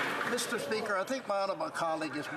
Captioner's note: some Applause